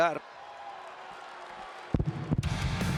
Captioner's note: applause